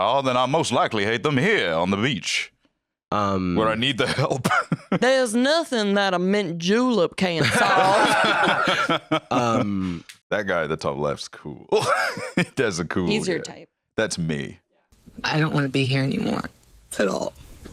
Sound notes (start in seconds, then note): 4.1 laughs; 7.4 both laughing; 11.6 laughs